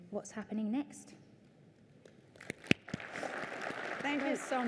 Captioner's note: applause